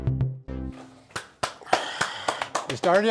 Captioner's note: palms clapping